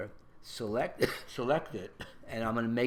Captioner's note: cough